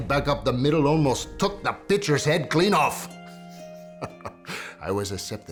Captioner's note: chuckles